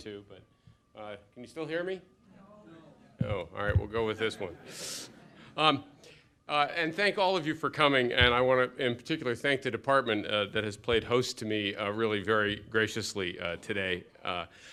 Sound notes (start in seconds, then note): 4.1 laughter